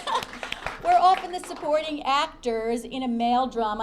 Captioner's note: applause